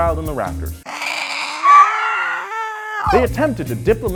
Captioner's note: screeching